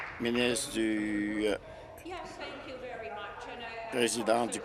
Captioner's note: applause